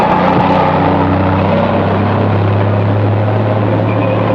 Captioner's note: revving